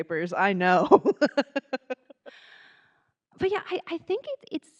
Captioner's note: laughing